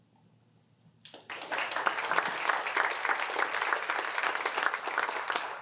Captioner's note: applause